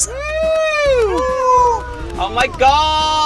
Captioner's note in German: Jubel